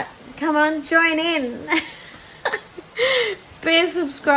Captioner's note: laughs